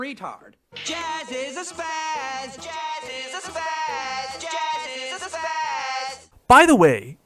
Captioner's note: slur; slur